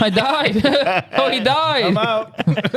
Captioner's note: laughing